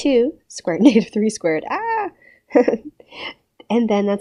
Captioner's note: laughs